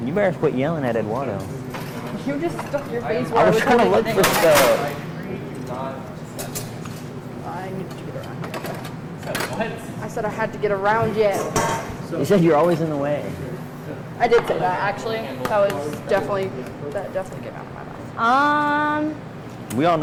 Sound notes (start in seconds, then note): 5.0 clattering